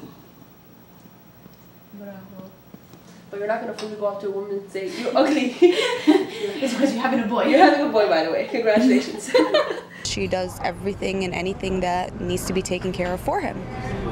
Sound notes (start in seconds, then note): 8.1 laughter